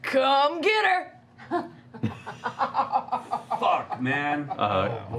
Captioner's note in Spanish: risas